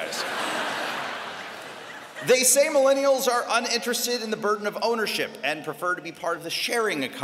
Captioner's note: laughter